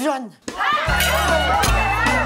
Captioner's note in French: Cris de panique